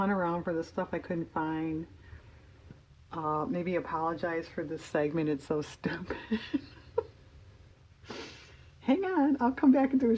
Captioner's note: laughs